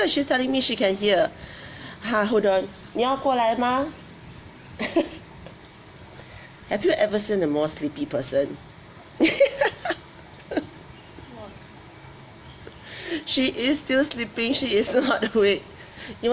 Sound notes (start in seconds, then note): 3.0 speaks in foreign language; 4.8 laughs; 9.2 laughs; 14.8 laughs